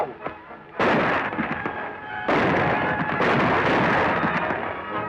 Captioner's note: gunshots